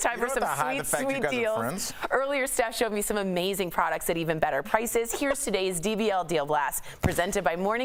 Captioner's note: laughter